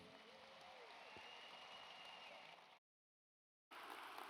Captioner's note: audience applauds